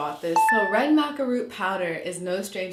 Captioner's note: beeping